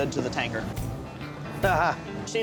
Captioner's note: chuckles